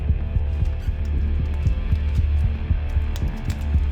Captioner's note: tape being removed